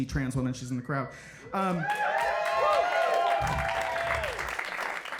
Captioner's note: audience cheering